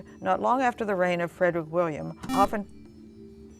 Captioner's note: beeping